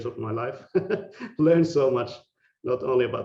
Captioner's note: laughing